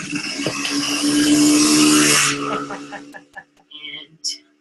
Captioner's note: car engine revving